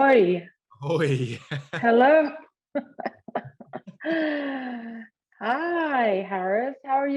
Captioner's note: laughter